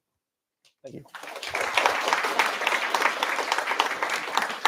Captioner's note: applause